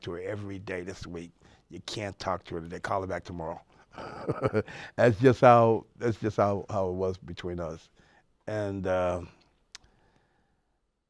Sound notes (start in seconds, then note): 3.9 laughs